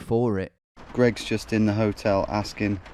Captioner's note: rain pattering